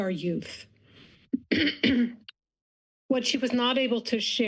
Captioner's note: clears throat